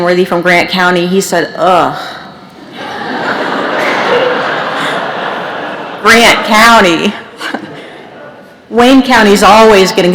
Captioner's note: laughter